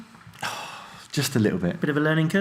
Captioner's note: sighs